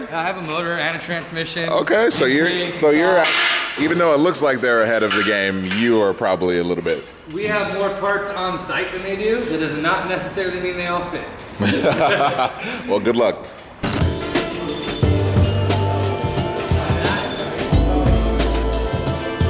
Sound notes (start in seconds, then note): 11.6 laughter; 14.0 gentle music